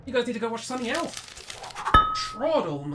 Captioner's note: rustle; thunk